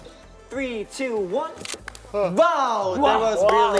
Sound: camera clicking

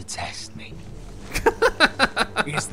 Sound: laughs

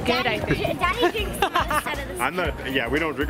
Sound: laughing

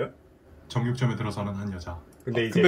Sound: recorded narration

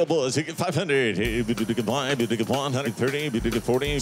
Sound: auctioneer calling

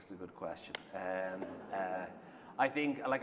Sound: laughter

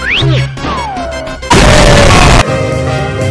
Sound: wtf boom

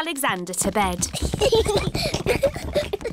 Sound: children giggling

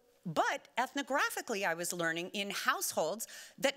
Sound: none

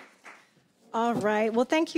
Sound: applause

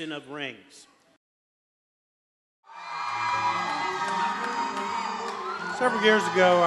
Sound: applause

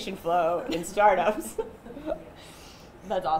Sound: chuckles

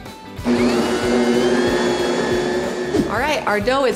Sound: mixer whirring

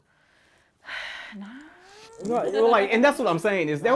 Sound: sighs

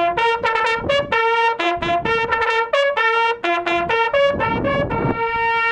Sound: wind noise

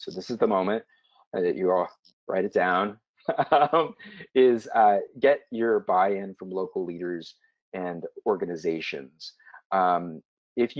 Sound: laugh

